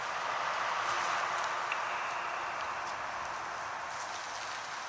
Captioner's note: road sounds in distance